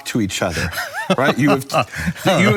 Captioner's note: laughs